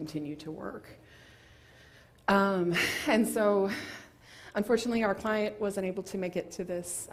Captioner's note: laugh